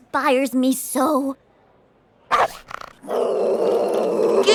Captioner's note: barks and growls